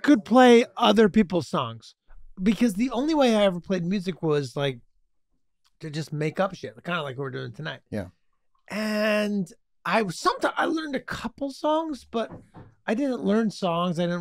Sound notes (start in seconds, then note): none